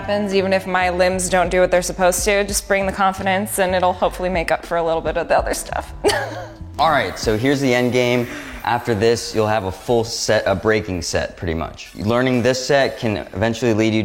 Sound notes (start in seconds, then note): 6.0 laughs